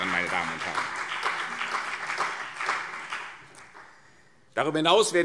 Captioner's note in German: Beifall CDU und BÜNDNIS 90/DIE GRÜNEN